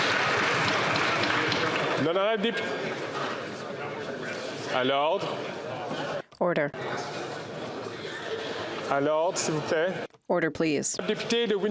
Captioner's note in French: applaudissements